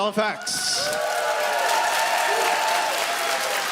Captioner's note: audience cheers